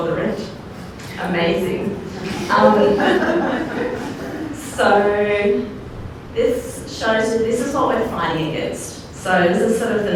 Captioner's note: laughter